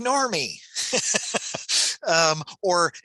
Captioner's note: laughs